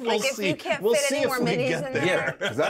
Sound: laughs; speaker laughs

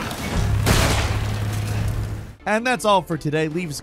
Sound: gunshot booming

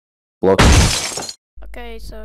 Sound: car crash

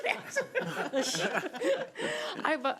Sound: all laughing

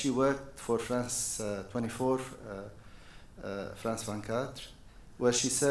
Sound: foreign language

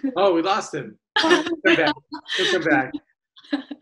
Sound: laughs

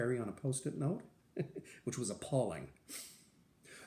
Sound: laughter

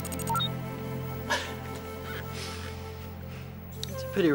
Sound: Mega laughing

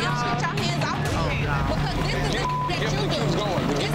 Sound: beep

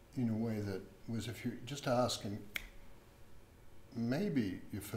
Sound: snaps fingers

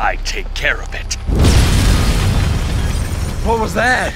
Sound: explosion

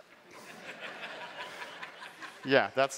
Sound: laughter

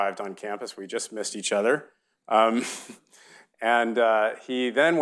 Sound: chuckles

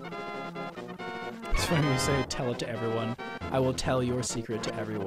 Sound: chuckling

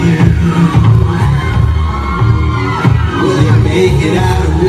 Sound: cheering

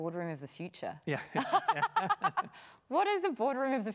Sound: laughing

